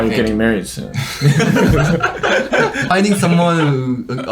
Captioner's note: everyone laughs